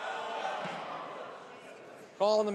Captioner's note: laughing